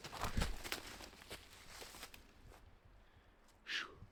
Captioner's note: footsteps